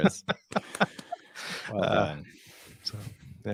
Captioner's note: laughing